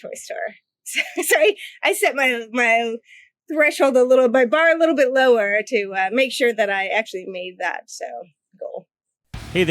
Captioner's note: laughs